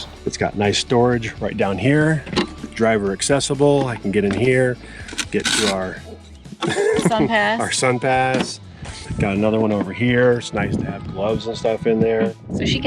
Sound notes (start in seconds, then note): 6.5 laughs